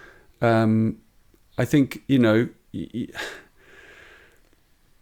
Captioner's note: chuckles